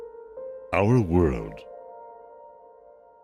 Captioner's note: voiceover